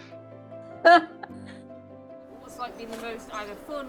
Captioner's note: chuckles